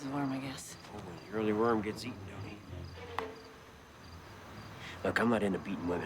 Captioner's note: teeth clack